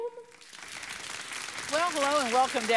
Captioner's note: audience clapping